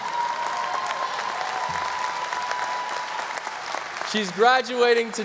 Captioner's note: audience applause